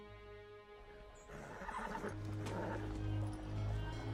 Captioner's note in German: Wieherndes Pferd